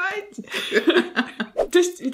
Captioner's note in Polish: śmiech